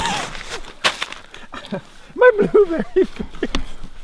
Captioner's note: laughing